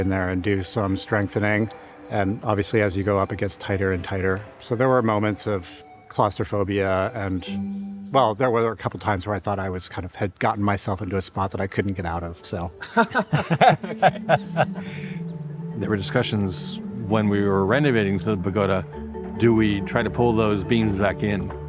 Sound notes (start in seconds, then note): 12.8 laughing